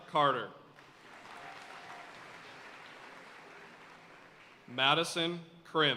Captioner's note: audience cheering and applauding